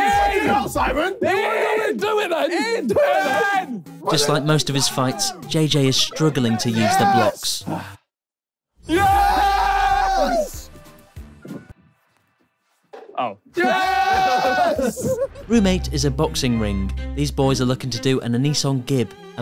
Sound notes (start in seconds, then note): 8.8 group cheering